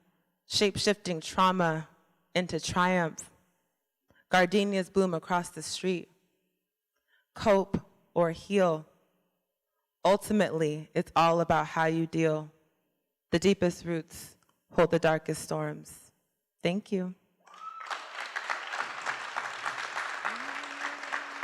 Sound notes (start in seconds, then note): 17.4 applause